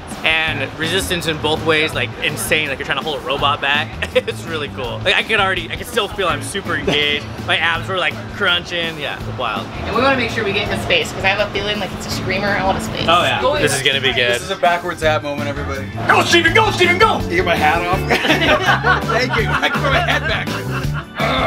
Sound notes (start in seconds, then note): 17.5 crowd encourages; 18.0 everyone laughs